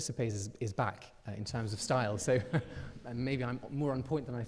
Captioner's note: chuckles